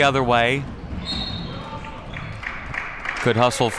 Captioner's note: referee blows whistle; crowd clapping